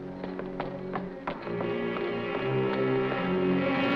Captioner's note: suspenseful music; heels thudding